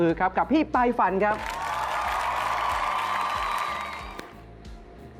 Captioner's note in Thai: เสียงเอฟเฟกต์ปรบมือ